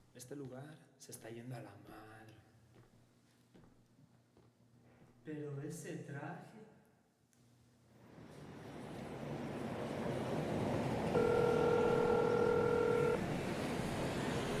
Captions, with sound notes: Este lugar se esta llendo a la madre. Pero Ese traje... [Traffic sounds] [Cell phone ringing]